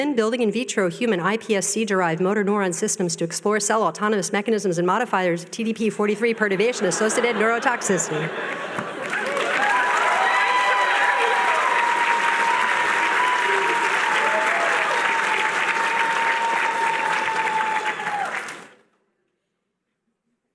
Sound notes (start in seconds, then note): 10.4 cheering